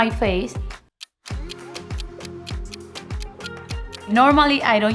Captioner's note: clock ticking